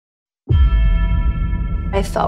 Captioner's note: gong ringing